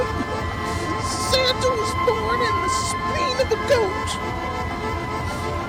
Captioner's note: coughing; bizarre Voice